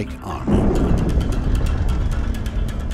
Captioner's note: bomb exploding